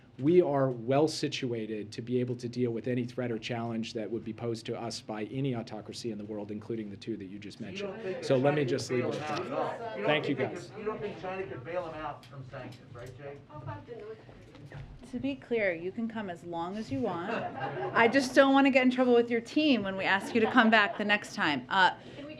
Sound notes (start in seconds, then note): 17.2 laughter